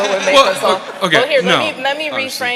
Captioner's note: audience laughing